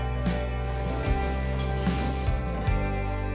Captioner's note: flames roar; sizzling